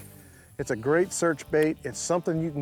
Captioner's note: none